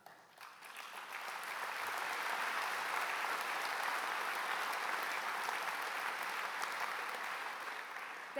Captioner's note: applause